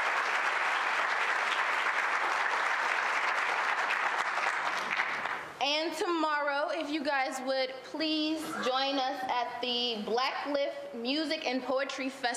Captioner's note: applause